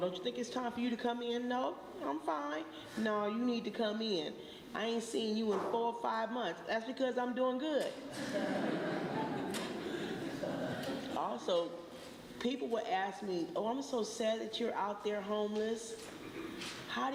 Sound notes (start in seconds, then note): 8.1 laughter